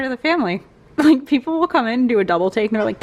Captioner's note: laugh